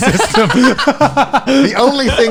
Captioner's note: all laughing